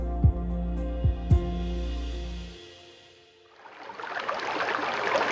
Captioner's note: water flapping; water flowing